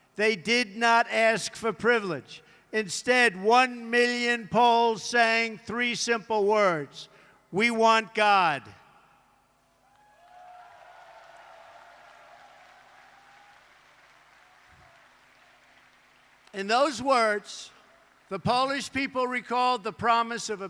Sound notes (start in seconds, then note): 11.9 applause